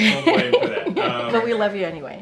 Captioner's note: laughter; laughs